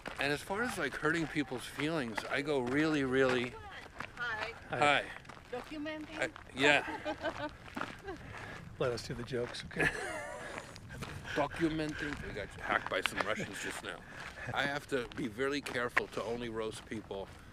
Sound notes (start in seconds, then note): 6.4 hikers laughing; 9.6 Kevin and Jeff laughing